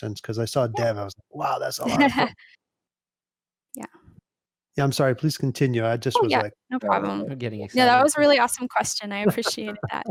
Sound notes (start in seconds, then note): 1.4 chuckles